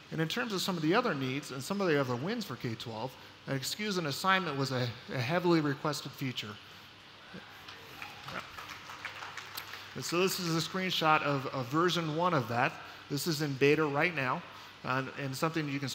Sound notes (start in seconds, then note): 7.6 applause